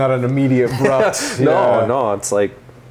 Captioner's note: laughs